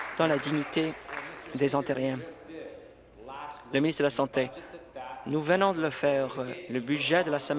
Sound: applause

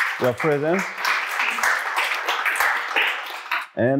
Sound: applause

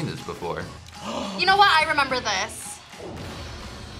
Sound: gasps

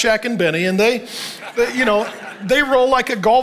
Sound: congregation laughing

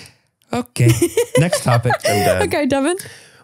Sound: laughs

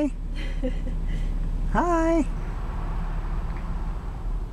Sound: laughs

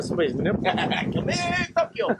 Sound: laughs

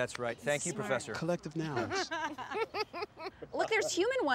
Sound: Jasmine laughs

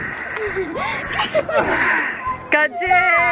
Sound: giggling

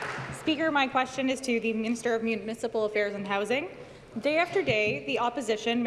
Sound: applause

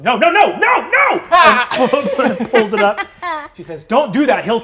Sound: yelps

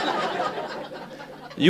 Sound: laughter

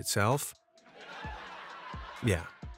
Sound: crowd laughing

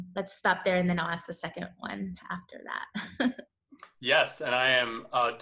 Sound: laughs

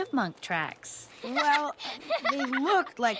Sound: giggles

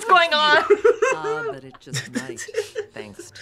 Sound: both laugh; laughs

